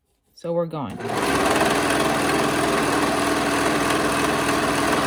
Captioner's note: machine whirring